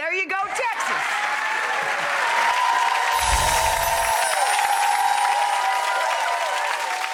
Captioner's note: audience applauds; bells chime